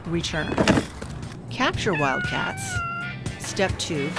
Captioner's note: meowing